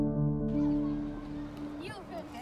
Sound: distant chatter

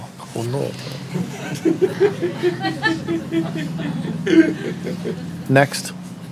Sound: laughter

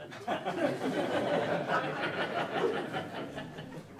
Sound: audience laughing

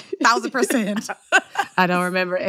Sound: laughter

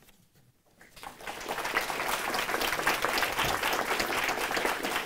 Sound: applause

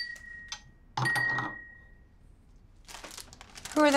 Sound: glasses clinking

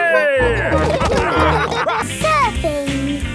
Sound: all laughing

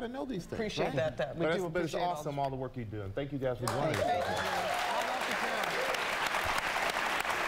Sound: applause

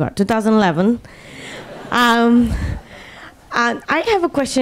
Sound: laughing

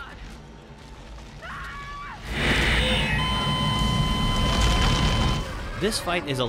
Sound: Kendra screams, flatlines

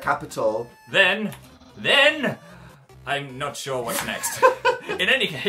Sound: laughs

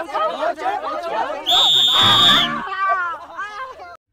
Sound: whistles

